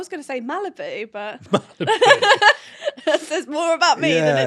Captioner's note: both laugh